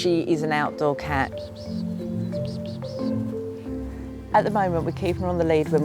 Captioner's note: chirping